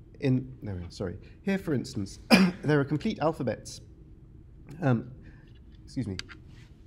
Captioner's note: coughs